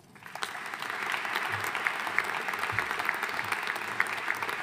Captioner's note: audience applauding